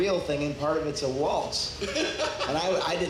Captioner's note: laughs